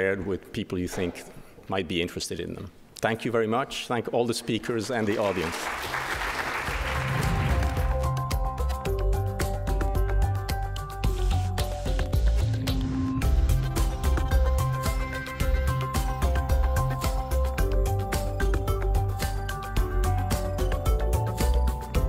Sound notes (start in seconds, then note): 5.0 audience applause; 6.1 dramatic instrumental music